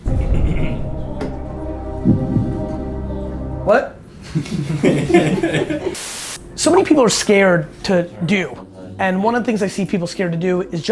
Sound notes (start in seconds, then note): 0.0 dramatic music; 4.1 laughs; 5.8 static